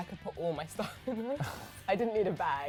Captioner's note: laughing